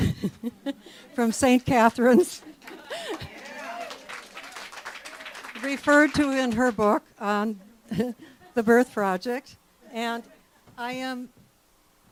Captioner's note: clapping and cheering